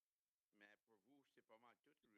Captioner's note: speaking French